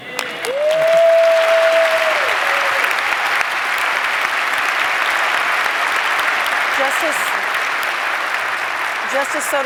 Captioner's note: applause